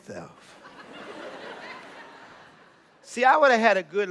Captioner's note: laughter